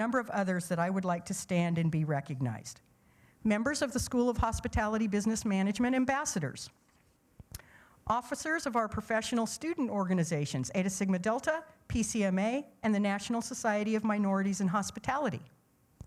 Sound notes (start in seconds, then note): none